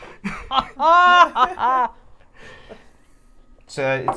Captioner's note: dramatic laughter